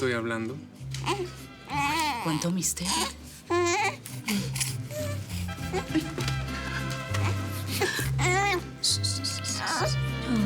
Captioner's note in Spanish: Vagidos de la bebé